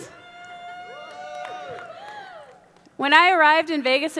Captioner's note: audience cheering